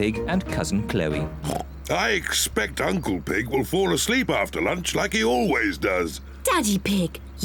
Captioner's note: oinks